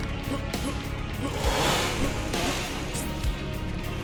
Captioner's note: roar of chainsaws as six leathernecks wake up